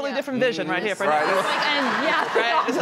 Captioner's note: audience laughing